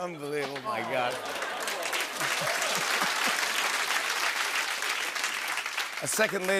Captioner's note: laughter, cheering, and applause